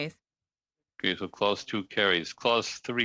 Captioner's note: speaking French